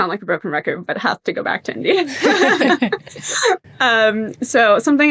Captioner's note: laughs